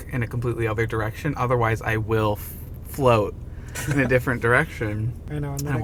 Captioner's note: laughing